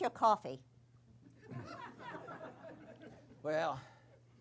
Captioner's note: laughter